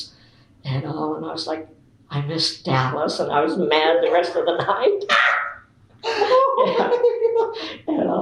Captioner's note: laughter